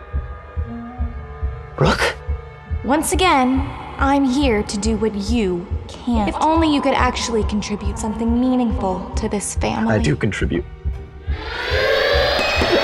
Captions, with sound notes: Brooke? (voice distorted) Once again, I'm here to do what you can't. If only you could actually contribute something meaningful to this family. I do contribute. (loud siren)